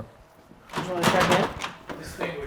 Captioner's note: car part jingling